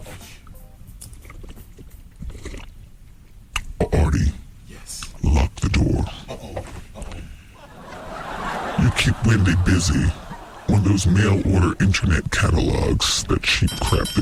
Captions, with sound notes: Artie? Yes? Lock the door. Uh-oh. Uh-oh. [LAUGHTER] You keep Wendy busy. When those mail order internet catalogs, that cheap junk